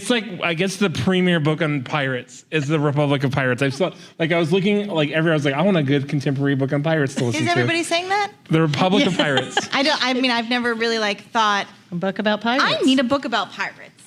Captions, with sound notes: It's like I guess the premier book on pirates is The Republic of Pirates. I was looking, like, I want a good contemporary book on pirates to listen to. >> Is everyone saying that? [LAUGHTER] >> The Republic of Pirates. >> I mean, I've never really like thought -- >> A book about pirates. >> "I need a book about pirates."